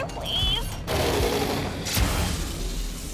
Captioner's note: Sparky roaring noises